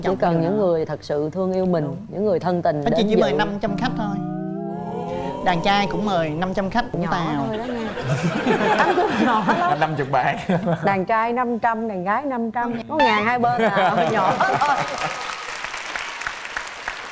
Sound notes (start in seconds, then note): 7.6 chuckles; 14.3 claps